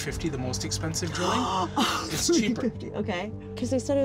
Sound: she gasps

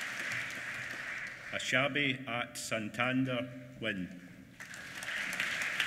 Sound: applause

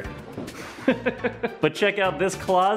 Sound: laughs

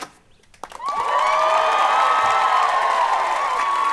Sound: cheering

